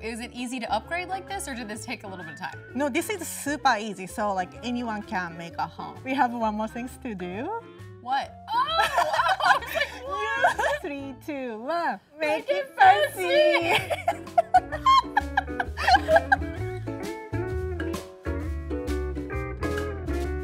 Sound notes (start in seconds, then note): 13.6 both laughing; 17.4 cheerful music